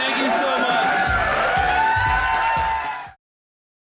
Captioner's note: audience cheering